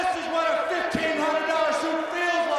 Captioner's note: crowd cheering